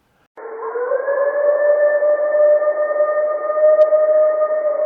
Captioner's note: creature howling